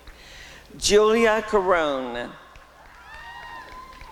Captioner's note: applause and cheering